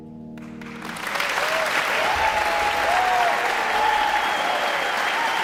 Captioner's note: audience applauding